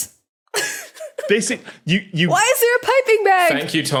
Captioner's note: giggles